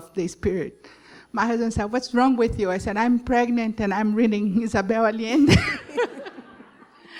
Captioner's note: laughter